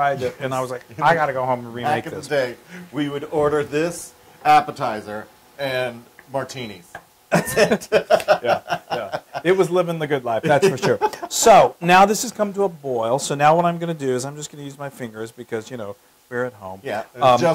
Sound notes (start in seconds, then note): 7.3 laugh